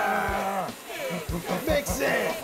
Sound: both grunting

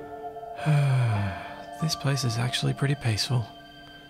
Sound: sigh

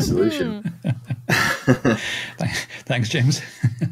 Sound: laughing

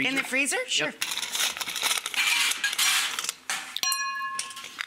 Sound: ice crunching

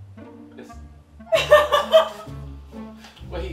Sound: laughing

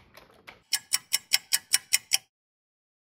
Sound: sound of a ticking clock

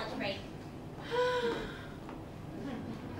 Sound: Sarah sighs

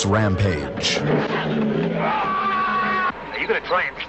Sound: screaming

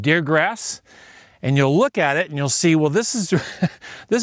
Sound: laughs

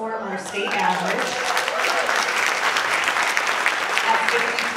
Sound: audience clapping

